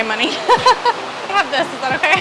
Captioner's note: laughs